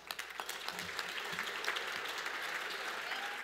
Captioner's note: audience applause and cheers